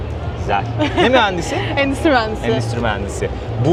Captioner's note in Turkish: kahkaha